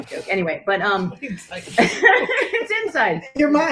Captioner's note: laughter